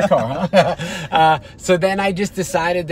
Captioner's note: laughter